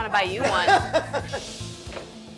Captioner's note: laughter